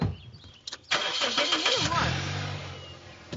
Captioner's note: car revs